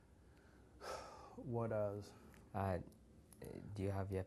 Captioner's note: sighs